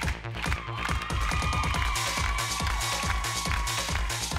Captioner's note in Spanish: Gritos y exclamaciones; Palmadas al compás